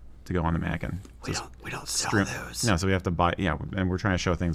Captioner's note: whispering comedically